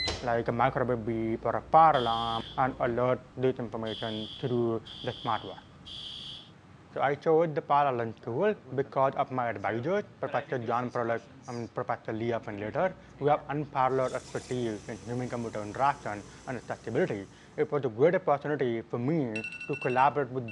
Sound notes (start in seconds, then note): 2.3 alarm sounding